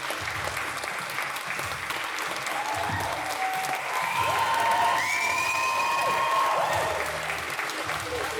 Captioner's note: applause